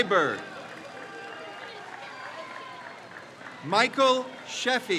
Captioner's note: crowd cheers